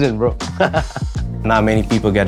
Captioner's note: laughs